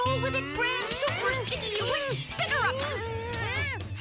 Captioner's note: pair groaning; pair groaning; Lizbeth humphs